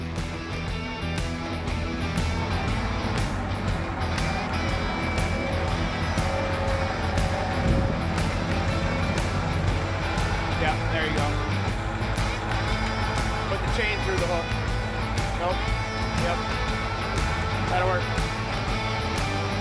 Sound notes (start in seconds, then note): 0.2 upbeat music; 3.7 engine revving; 18.7 engine revving; 18.7 upbeat music